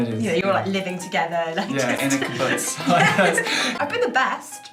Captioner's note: laughter